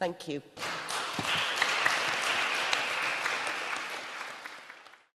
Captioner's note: applause